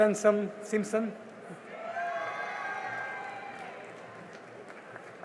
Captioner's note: cheering and applause